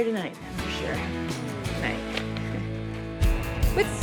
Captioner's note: chuckles